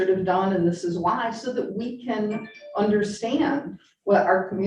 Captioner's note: computer chiming